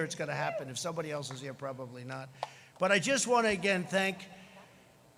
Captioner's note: none